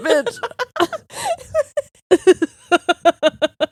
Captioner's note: both laughing